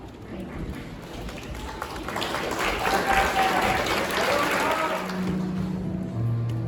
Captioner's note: applause